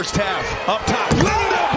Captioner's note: crowd noise; cheers and applause